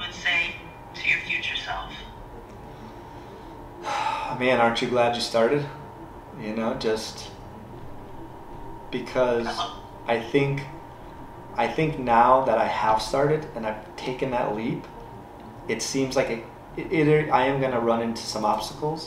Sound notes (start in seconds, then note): 2.6 takes a breath